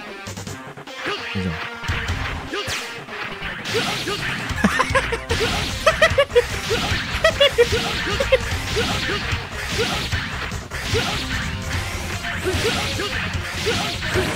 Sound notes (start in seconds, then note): 4.4 the villain's evil laugh